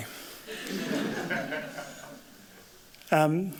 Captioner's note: laughter